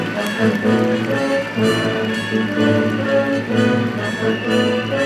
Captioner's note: audience applauding